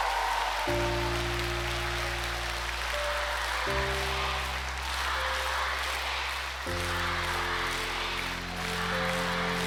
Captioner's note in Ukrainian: оплески